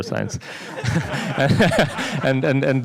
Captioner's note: laughter